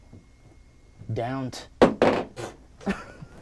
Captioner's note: objects thumps; laughing